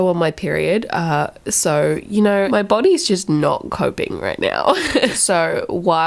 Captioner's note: dark laughing